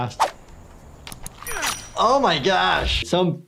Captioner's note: grunts